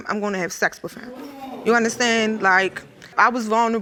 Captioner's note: audience murmuring